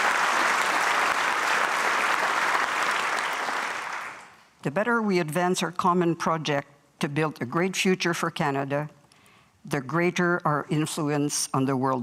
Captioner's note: applause